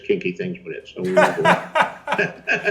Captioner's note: Chris laughs; George laughs